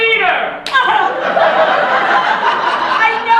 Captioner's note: stage combat slap